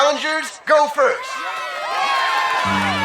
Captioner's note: cheers